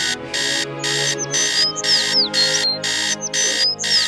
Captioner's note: alarm clock ringing